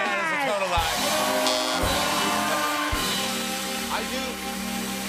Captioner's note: buzzer